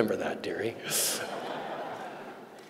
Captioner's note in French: Rires